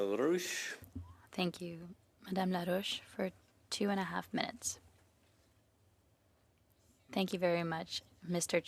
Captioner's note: speaking French